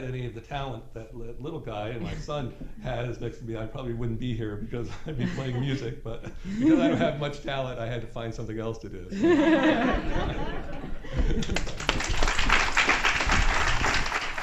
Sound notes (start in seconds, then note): 9.1 laughter; 11.4 applause